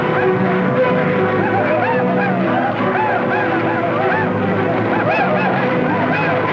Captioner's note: Apache tribe yelling; tense orchestral music